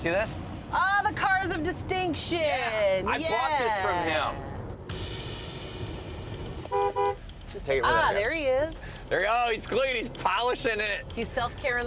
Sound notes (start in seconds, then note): 6.5 car horn